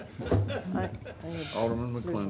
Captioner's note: laughter